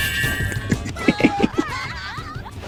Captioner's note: laughs to myself